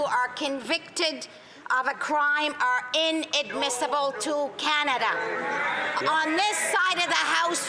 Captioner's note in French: voix de l'interprète